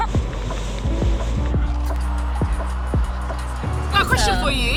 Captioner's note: traffic rumbling